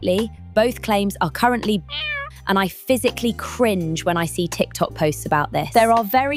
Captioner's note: meow